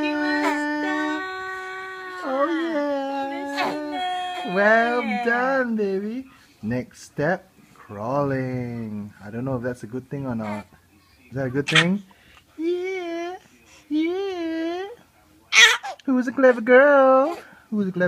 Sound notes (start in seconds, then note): 14.6 falsetto